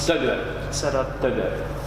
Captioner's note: speaking foreign language